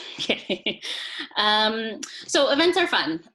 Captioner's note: laughs